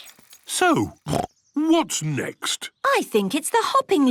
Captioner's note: snorts